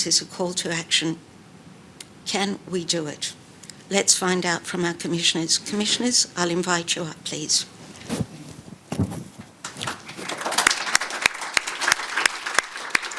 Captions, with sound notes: is a call to action. Can we do it? Let's find out from our Commissioners. Commissioners, I'll invite you up please. (book thuds) (audience applauding)